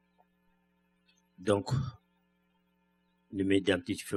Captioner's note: speaking french